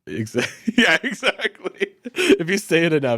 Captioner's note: laughs